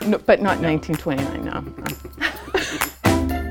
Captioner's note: laughs